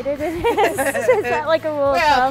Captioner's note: laughing